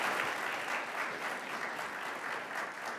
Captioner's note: audience applauds